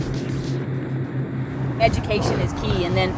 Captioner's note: water rushing